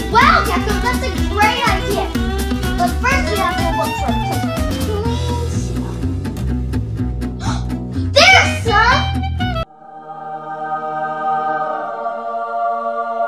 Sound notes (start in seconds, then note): 7.3 assistant gasps; 9.6 angelic choir singing